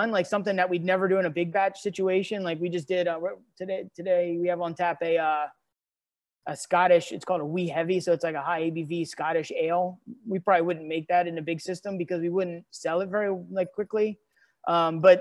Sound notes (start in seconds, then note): none